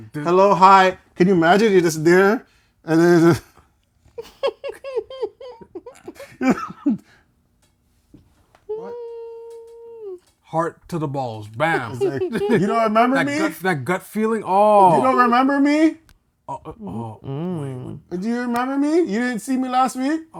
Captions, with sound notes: "Hello, hi." Can you imagine you're just there? And then this is-- [LAUGHTER] [LAUGHTER] "What?" Heart to the balls, bam. "You don't remember me?" That gut feeling, oh. "You don't remember me?" "Do you remember me?" "You didn't see me last week?"